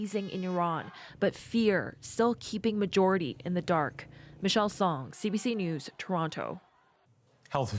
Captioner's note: horns